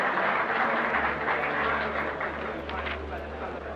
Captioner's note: audience applaud